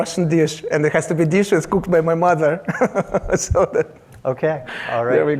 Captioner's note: laughs